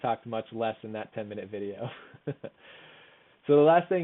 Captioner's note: chuckles